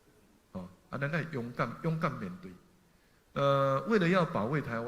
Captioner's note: hokkien dialect